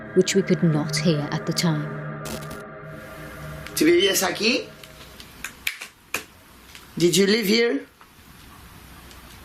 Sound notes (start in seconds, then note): 4.3 speaking in foreign language